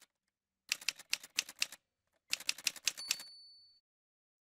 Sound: typewriter sounds

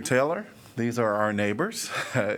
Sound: laughter

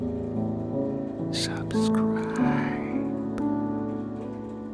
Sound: whispers

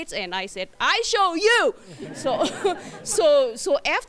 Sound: laughter

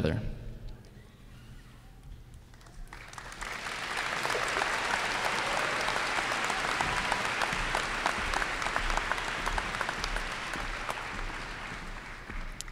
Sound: applause and cheers

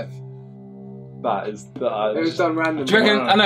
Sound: all chattering

